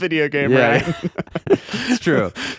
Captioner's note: laughing